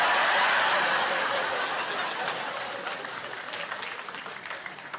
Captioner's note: laughing